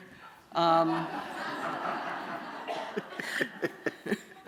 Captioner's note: laughter